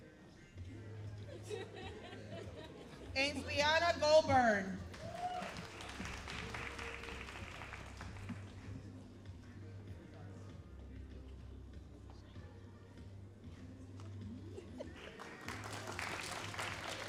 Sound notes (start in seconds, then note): 4.4 all applauding